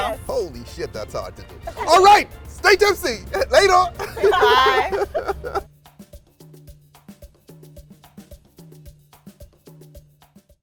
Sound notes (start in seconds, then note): 5.2 laughter